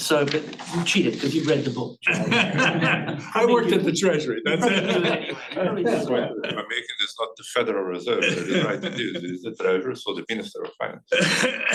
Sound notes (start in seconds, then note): 2.0 audience chuckling